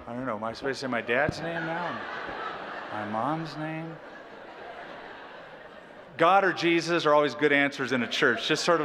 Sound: laughter; laughter

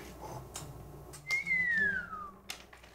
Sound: whistle

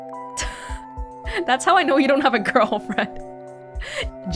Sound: chuckles

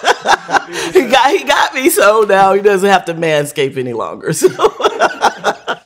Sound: laughter

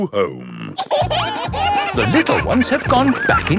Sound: kids giggling

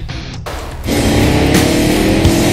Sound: Subaru exhaust sound

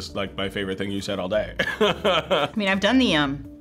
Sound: laughs

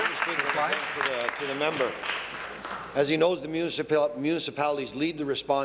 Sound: applause

